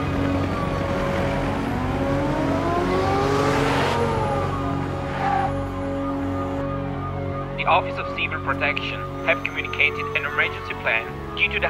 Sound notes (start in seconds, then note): 1.0 sirens wail; 1.0 somber instrumental music